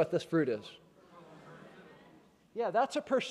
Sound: chattering

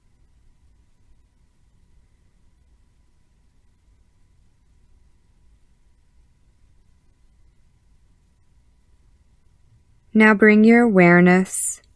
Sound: silence

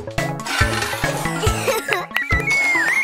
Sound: giggling; chirping

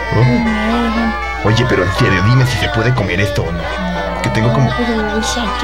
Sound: chit chat

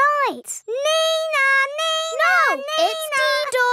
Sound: imitates siren

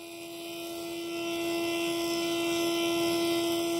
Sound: whirring

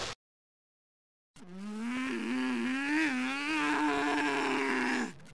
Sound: Tails growling

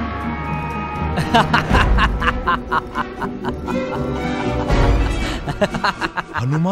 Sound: laughs

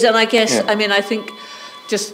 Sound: phone ringing

